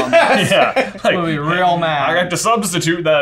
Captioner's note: laughing